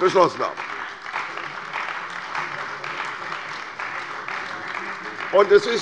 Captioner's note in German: Beifall bei der CDU